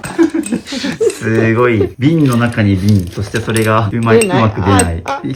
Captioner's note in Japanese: 笑い